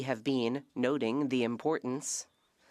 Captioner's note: speaking French